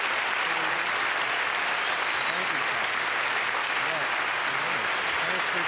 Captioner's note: applause